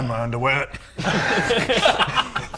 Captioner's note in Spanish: Risas